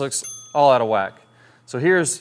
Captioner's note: bell ticking